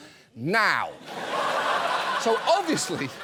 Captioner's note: studio audience laughs